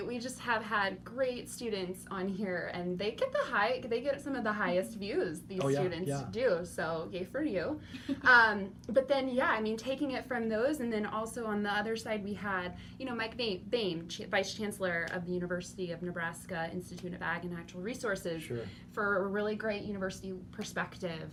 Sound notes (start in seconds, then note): 8.3 laughing